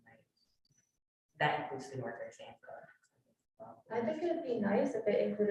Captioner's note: speaks faintly